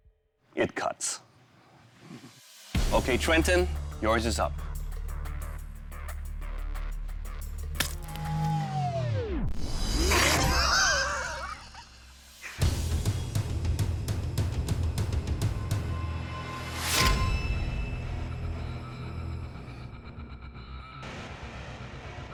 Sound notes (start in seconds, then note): 8.0 music winds down; 10.2 laughter; 13.0 dramatic music